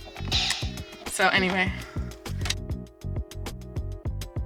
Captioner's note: video game noises